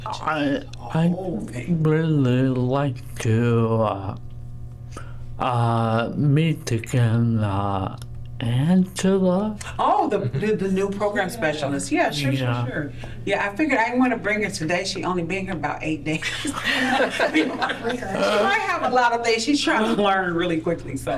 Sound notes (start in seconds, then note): 16.2 laughter